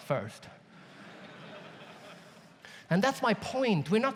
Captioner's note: audience laughs